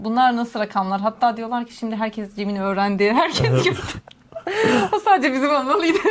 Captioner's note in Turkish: kahkaha